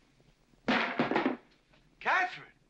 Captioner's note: loud bang